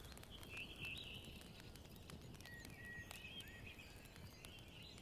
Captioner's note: birds chirping